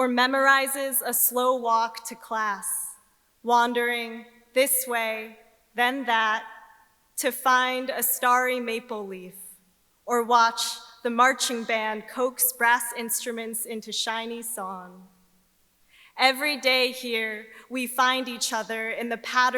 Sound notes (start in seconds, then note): none